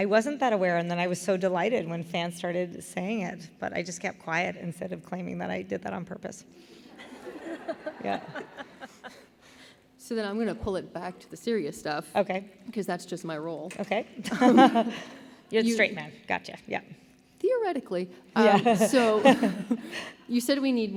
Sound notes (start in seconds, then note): 6.9 laughter